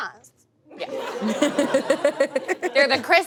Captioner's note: audience laughs